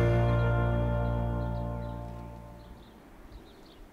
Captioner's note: birds chirping